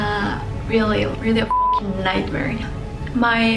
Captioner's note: beep